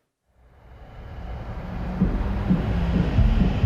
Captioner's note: car engine roaring; upbeat music